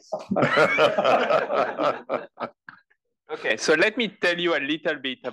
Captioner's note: laugh